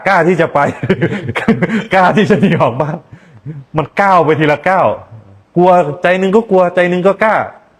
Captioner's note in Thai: เสียงหัวเราะ